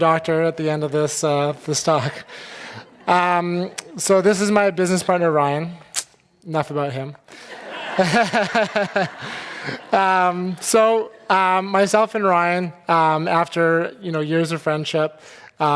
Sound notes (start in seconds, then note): 2.4 audience laughing; 7.4 laughing